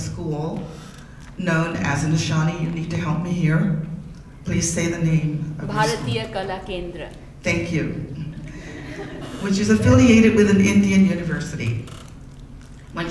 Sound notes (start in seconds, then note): 5.7 speaking in a foreign language; 8.2 audience laughs